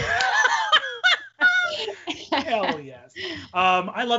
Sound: both laughing

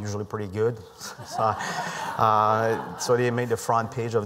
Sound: laughter

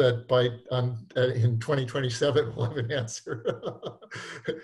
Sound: laughing

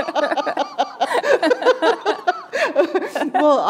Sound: laughter

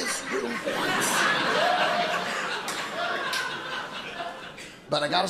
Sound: audience laughing

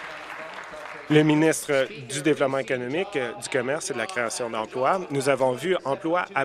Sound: applause

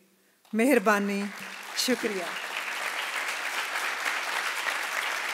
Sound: non-English phrase

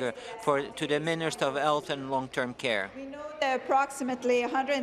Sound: speaking in French

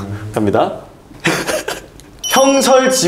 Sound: laughing at his own ideas

